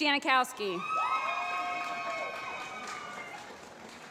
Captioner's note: applause